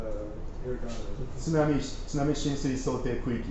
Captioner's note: speaking japanese